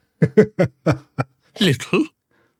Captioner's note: laughs